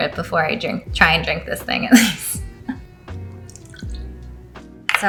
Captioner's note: laughs